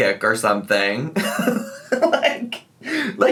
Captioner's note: giggles